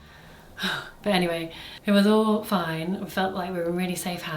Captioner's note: sighs